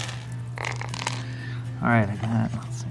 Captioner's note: dice rolling